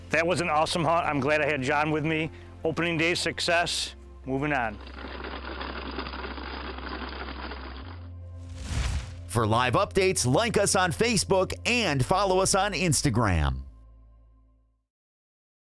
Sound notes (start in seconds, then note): 5.2 seeds spilling